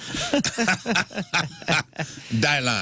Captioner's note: laughing